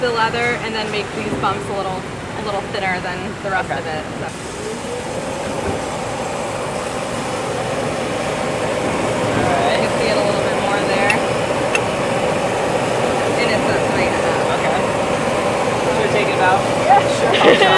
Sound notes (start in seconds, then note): 11.9 machinery whirring